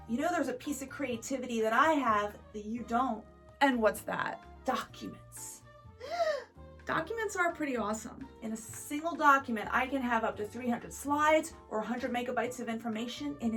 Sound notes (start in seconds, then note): 5.9 Article gasps